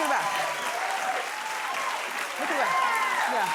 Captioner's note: cheering